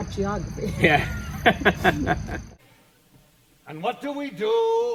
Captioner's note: laughing